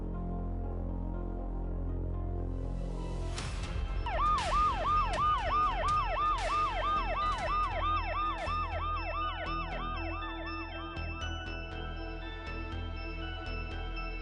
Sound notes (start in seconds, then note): 4.0 ambulance siren; 8.5 ominous Music